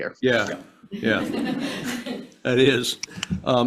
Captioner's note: senators laughs